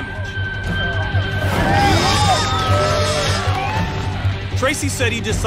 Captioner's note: cheering